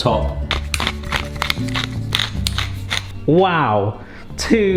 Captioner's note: pepper cracking